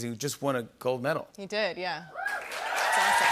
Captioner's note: cheers and applause